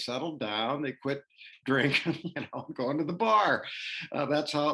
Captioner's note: laughter